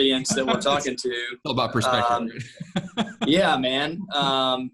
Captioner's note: laughs